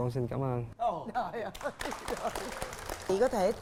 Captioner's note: applause